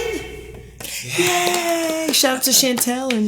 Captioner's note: clapping